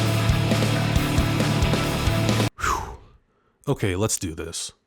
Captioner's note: sigh